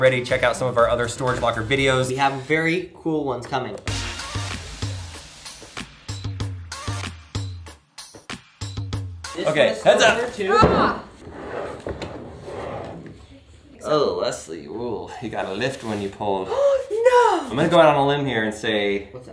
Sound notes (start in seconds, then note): 3.9 chill electronic music; 10.4 shouts; 16.8 gasps